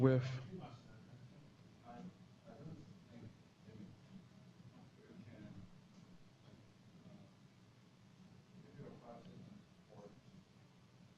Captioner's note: pause